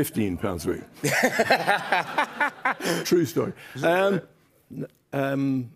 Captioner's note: laughs